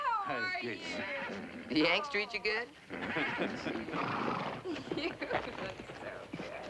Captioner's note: chuckling